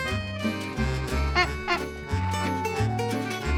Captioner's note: horn honks